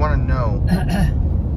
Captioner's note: clears throat